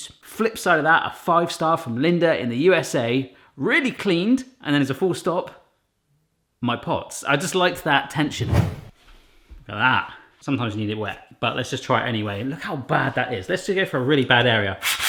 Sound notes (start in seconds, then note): 8.3 whooshing